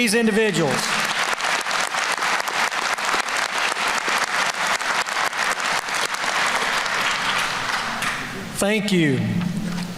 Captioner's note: applause